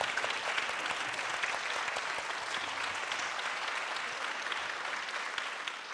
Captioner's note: audience applauding